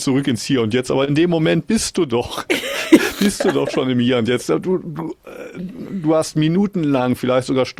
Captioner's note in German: gelächter